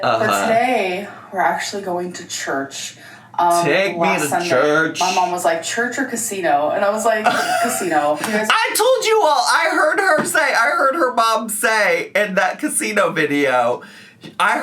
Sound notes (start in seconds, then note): 7.3 laughs